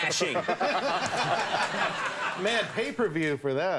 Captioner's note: crowd laughs